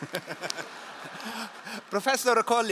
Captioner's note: all laugh